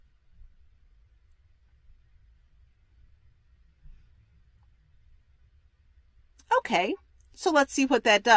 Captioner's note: pause